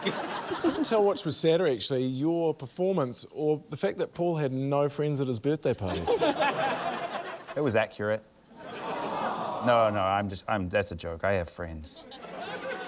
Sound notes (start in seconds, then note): 0.0 laughter; 5.8 laughter; 12.0 laughter